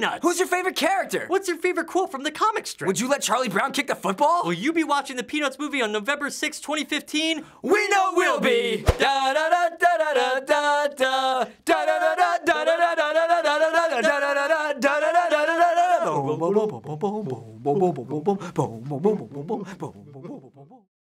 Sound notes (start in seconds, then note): 8.9 vocalizing theme song